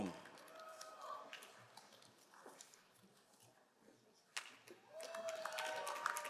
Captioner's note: crowd cheering and applauding